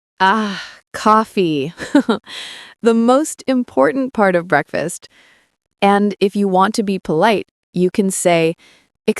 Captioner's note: laughing